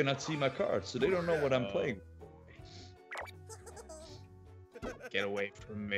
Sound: laugh

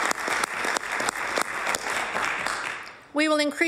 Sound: applause

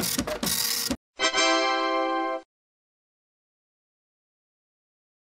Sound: congratulatory chime

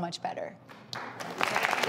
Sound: audience applauding

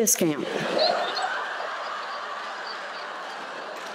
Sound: laughter

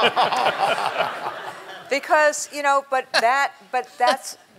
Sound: laughter

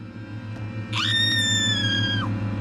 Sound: foreboding music; scream; foreboding music

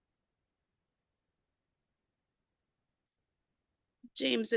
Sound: audio cuts out

